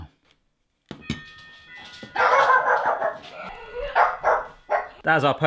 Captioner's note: doorbell rings; dogs barking